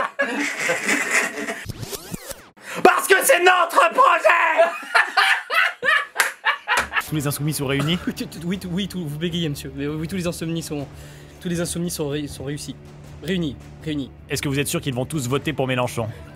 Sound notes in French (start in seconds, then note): 4.5 rires